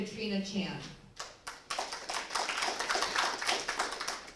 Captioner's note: applause